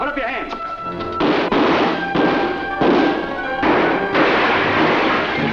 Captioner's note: gunshots firing